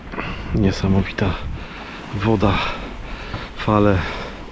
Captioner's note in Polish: westchnienie